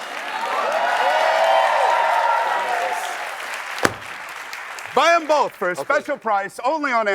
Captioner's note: cheers and applause